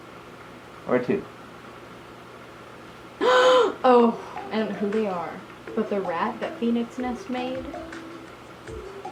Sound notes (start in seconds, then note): 3.2 gasps